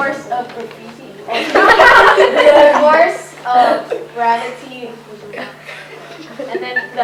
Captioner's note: laughter